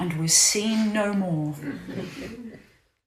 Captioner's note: laughter